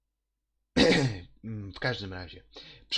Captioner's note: cough caused by losing the thread of what I was going to say next